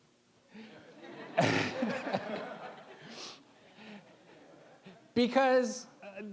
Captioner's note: all laughing